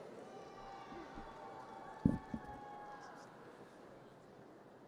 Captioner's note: audience cheers